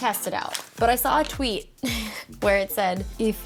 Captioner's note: chuckles